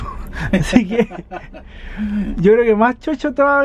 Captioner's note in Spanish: risas